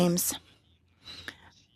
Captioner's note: speaking French